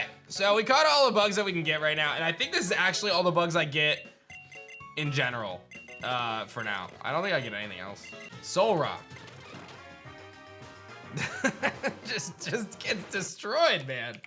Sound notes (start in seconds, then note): 11.1 chuckles